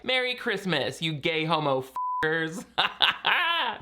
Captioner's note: beep